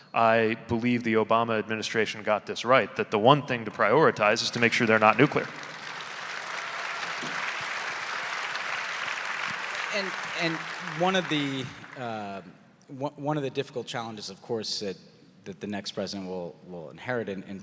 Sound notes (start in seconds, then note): 6.4 audience applauding